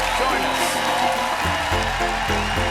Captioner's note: cheers and applause